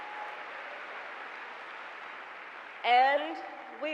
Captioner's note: applause